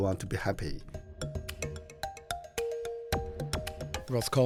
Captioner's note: voiceover